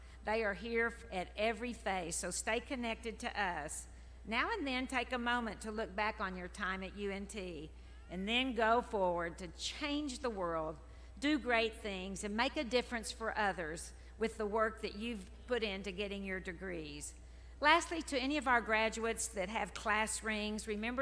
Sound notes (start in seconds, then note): none